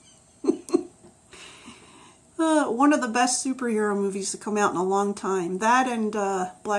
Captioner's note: laughs